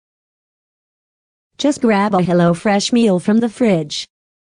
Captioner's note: none